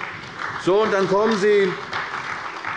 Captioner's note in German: Beifall bei der CDU